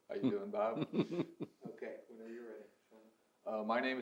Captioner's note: laughs